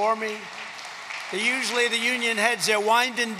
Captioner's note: applause